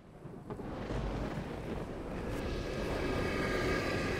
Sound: thunder cracking

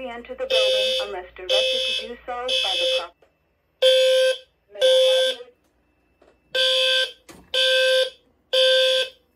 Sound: voice Message

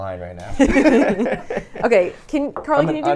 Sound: laughs

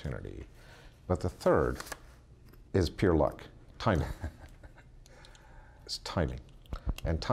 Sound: chuckles

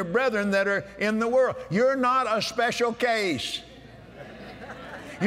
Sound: laughter

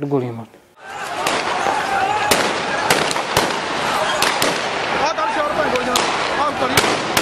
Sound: gunshots and chaos

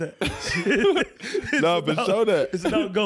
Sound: laughing

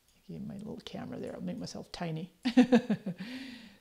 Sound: chuckles

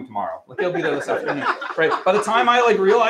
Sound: laughter

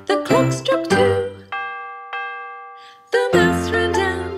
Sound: bell dings

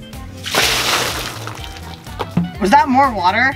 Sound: button clacking; water splashing

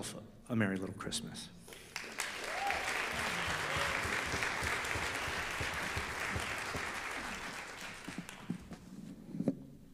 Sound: audience applause

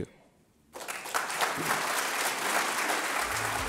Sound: applause

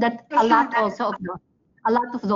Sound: video echoes

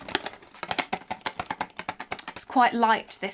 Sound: box rattling

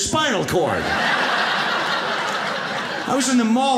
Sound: audience laughs

